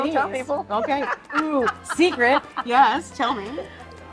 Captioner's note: laughing